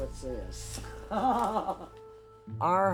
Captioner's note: laughs